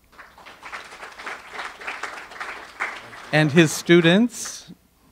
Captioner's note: audience applause